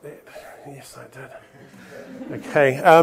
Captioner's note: chuckling